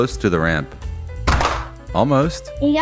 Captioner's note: bonk!